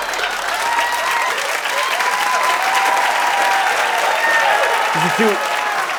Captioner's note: cheers and applause